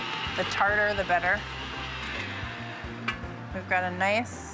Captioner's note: mixer stops